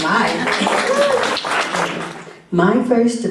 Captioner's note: applause